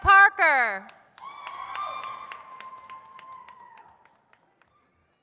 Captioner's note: audience cheers